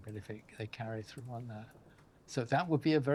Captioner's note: none